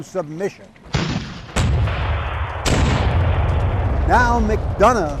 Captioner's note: cannons booming